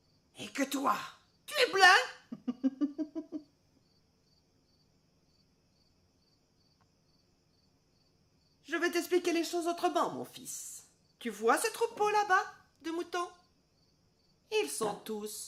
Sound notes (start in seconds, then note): 2.2 giggling